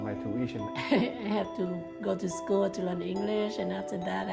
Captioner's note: laughs